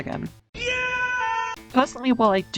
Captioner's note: Mike Wazowski scream